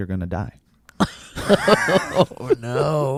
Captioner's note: laughs